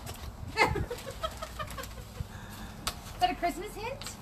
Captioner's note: laughs